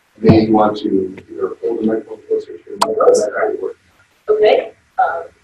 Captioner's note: audio warps